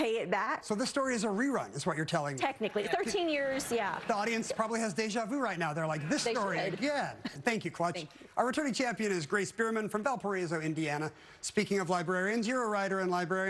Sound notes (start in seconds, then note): 2.8 laughter